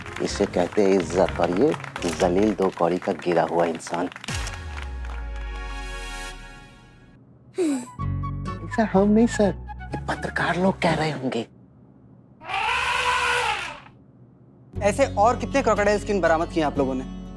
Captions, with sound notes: This is called respect. And this a despicable worthless man. [comical music] I'm not saying this, sir. These journalists must be saying this. [elephant trumpeting] How many more such crocodile skins, have you recovered?